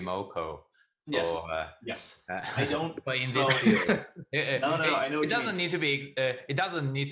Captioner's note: many voices